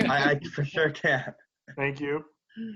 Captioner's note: laughter